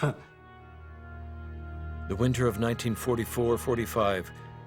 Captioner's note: voiceover